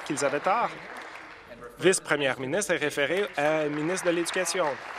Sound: applause

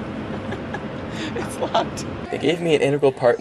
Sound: laughing

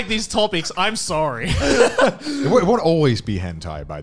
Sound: laughing

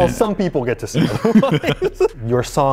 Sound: laughter

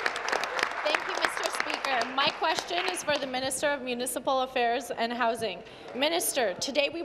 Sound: applause

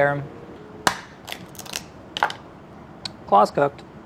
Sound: shell cracks

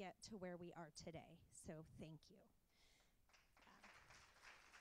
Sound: applause

